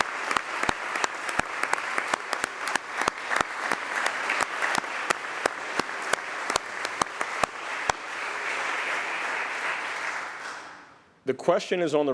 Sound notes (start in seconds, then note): 7.0 applause